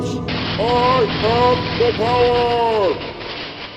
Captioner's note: electric zaps